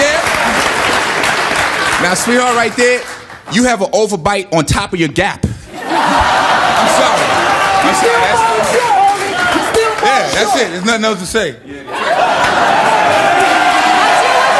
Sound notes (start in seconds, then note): 5.7 audience laughing